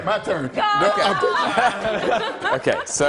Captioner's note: laughter